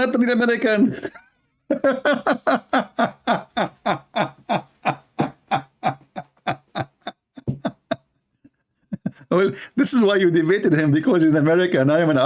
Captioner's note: Ketawa